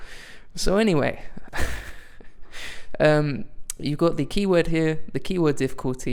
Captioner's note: laughs softly